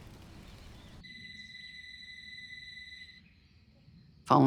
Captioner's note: distant phone rings